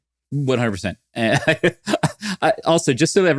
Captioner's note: laughs